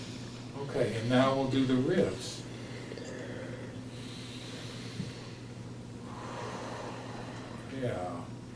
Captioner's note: inhale and exhale moving the ribs